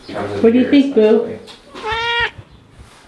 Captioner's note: meow